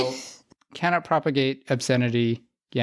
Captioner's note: laughs